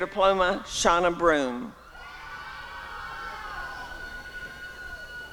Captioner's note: applause and cheering